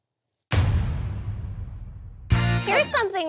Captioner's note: dramatic boom